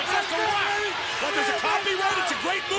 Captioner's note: overlapping chatter